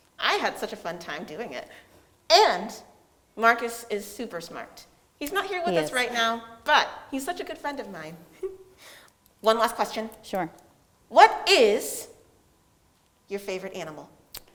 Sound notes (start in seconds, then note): 8.3 giggles